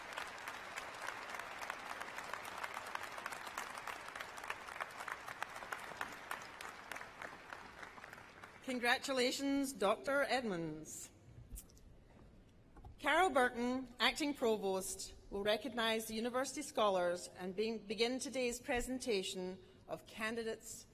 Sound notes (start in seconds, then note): 2.3 applause